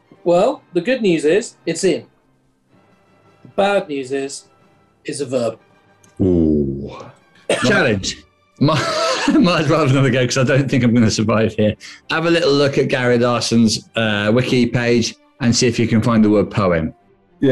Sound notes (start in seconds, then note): 8.6 laughing